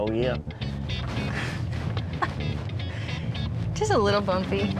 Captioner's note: chuckling